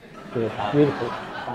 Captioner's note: audience laughs